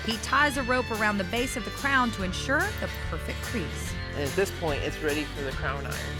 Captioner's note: none